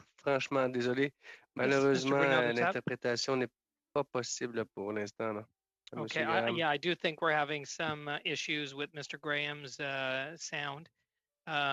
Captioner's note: speaking french